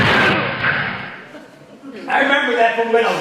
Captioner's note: audience laughing